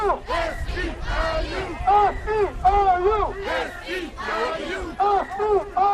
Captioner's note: chanting